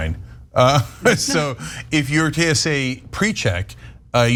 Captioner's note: laugh